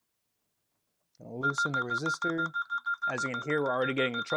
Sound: beeping

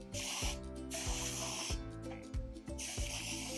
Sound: spritzing

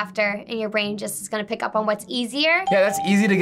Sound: bell rings

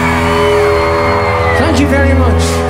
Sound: applause

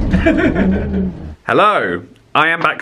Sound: laughs

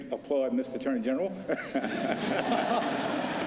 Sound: laughter

